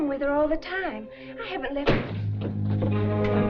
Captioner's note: dramatic music; door banging